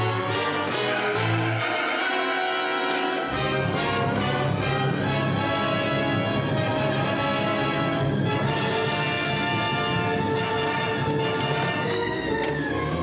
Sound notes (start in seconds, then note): 0.3 tires screeching